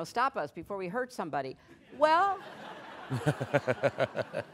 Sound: laughter

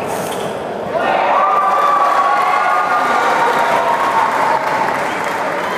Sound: applause

